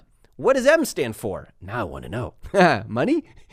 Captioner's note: laughs